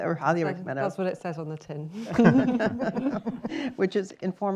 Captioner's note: laughter